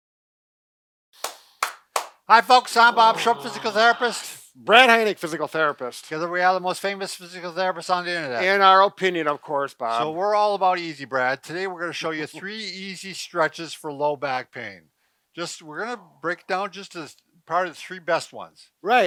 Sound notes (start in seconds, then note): 1.2 man claps